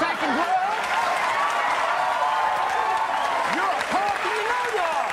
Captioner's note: audience cheering